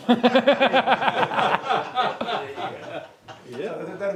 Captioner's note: laughter